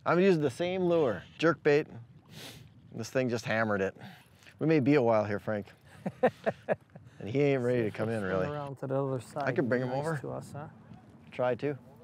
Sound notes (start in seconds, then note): 3.1 sniffs; 5.8 laughs